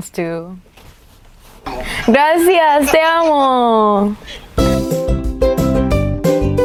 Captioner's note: Spanish